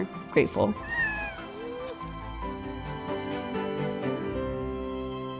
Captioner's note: Viggo meowing; uplifting music